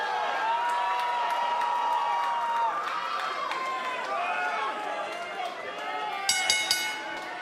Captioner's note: crowd cheering; bell ringing